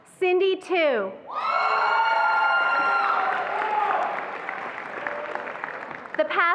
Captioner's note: attendees applauding and cheering